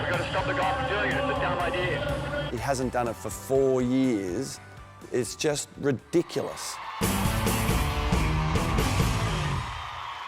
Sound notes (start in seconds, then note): 5.8 crowd cheering; 6.7 rock music; 10.0 somber music